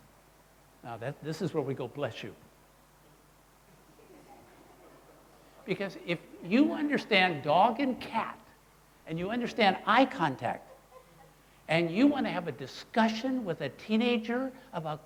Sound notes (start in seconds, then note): 3.8 crowd laughing